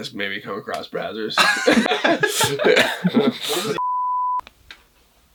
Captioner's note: multiple laughs